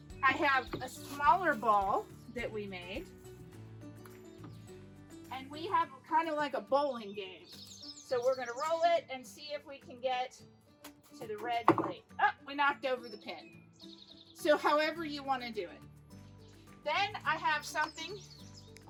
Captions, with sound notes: I have a smaller ball that we made and we have kind of like a bowling game. So we're gonna roll it and see if we can get (ball bouncing) to the red plate. (pin falling over) Oh! We knocked over the pin. So however you wanna do it. Then I have something,